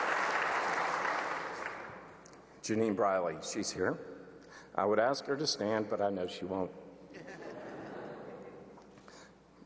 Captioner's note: applause